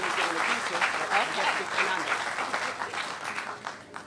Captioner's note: applause